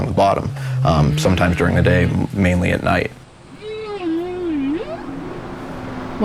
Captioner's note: whale sounds